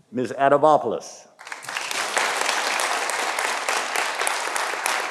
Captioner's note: audience applauding